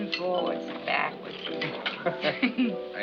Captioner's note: both laugh